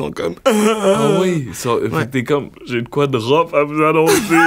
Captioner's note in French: faux pleurs